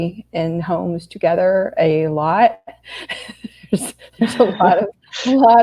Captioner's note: laughs